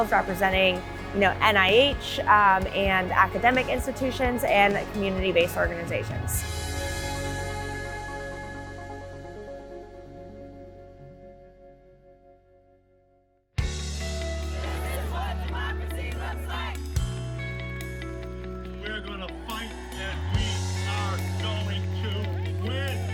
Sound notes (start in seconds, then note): 6.2 uplifting music continues; 13.6 crowd